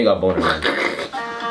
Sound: snorts

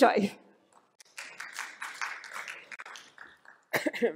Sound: applause

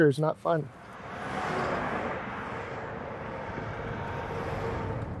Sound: traffic roaring

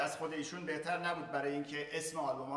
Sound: speaking in farsi

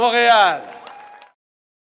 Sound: applause

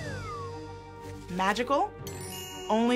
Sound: magical chime

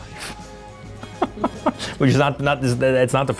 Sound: laughing

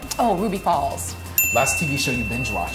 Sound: bell dinging

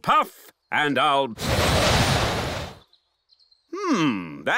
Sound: blows

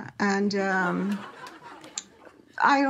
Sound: laughter

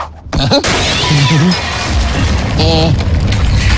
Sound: crash

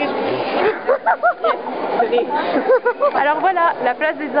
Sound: laughs

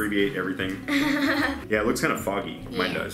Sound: chuckles

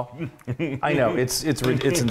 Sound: laugh

